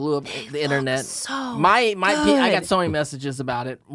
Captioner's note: whispers